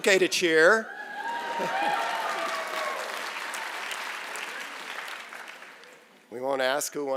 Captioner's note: cheering and Applause